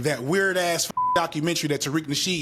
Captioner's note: beep